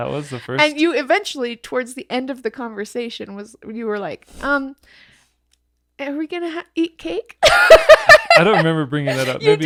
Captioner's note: laughing